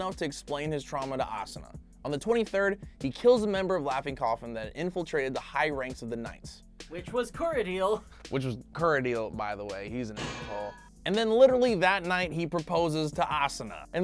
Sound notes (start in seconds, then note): 10.1 metal bangs